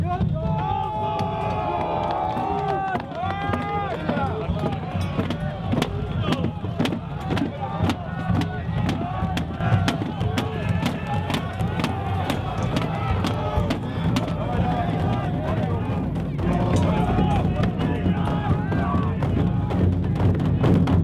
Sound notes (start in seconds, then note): 16.4 shouting